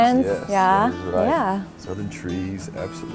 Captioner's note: murmurs